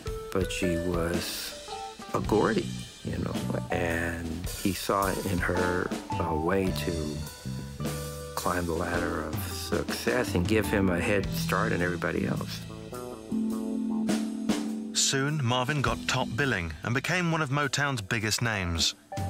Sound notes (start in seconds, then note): none